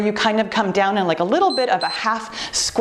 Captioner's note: timer beeps